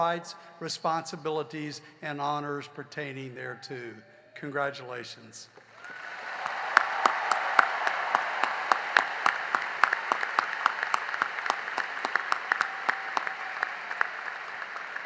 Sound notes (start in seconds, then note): 4.1 cheering and applause